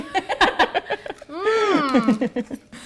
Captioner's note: laughing